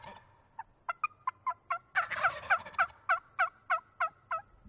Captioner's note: turkey calling